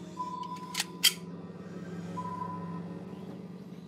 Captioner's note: gun clicks